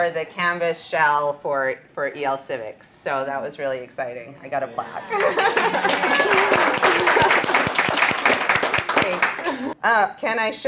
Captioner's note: laughter and applause